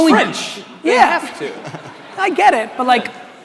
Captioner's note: audience laughing